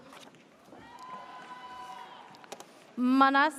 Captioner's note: audience cheers